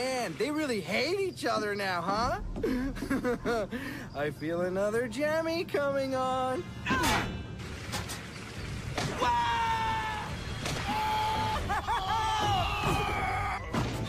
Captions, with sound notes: Man ! They really hate each other now, huh? *deep breath and evil laughter* I feel another Gemmy coming on... *smack* Aah ! uuaaaaaaahhhh!!!! Aaaaaaa !!!!